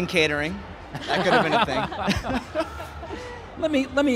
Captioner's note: laughing